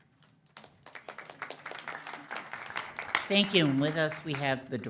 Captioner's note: audience applauds